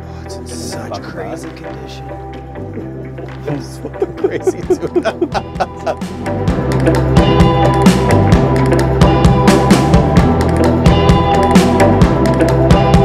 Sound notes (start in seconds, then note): 3.4 chuckles; 3.4 both laughing; 6.4 upbeat inquisitive music